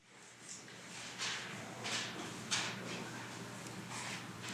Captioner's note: papers rustling